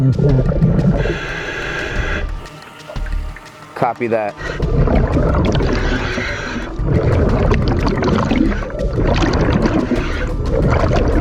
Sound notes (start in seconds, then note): 1.2 intense music; 4.3 water bubbles blowing